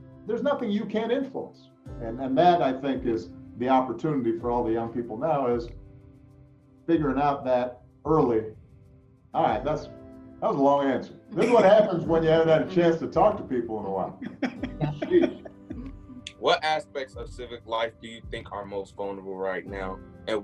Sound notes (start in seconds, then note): 11.3 laughing